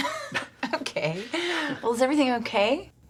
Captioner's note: laughs